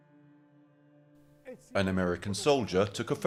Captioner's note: speaking in foreign language